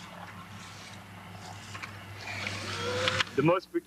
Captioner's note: tractor engine rumbling